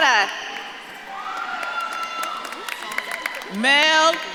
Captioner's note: audience claps and cheers